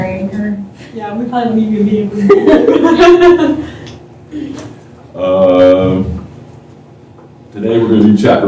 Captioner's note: laughter